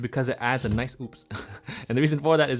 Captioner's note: laughs